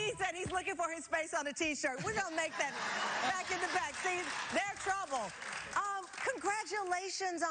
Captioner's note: cheers and applause